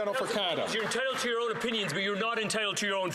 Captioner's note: some Applause